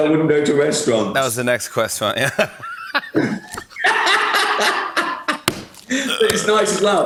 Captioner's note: both laugh